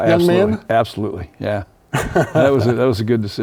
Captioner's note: laughs